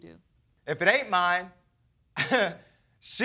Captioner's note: chuckles